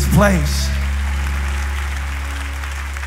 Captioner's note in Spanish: Aplausos